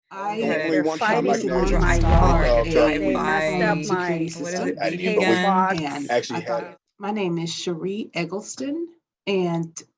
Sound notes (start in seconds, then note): 0.2 multiple voices